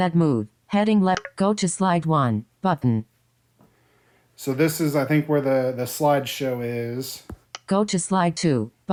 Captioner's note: click